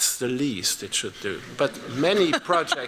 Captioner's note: laughter